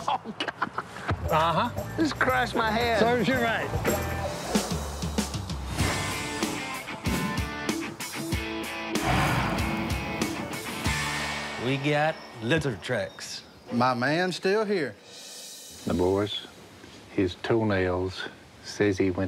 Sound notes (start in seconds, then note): 8.2 huffs